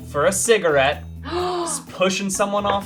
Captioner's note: gasps